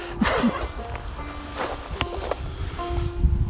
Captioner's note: laughs